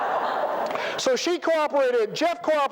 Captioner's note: laughter